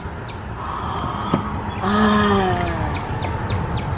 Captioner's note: excited gasp